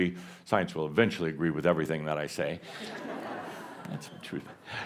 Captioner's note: laughter